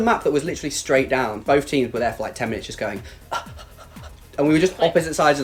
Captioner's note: running sounds